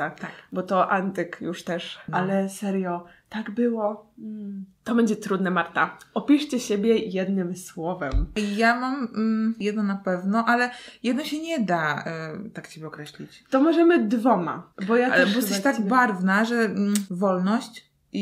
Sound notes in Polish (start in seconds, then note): none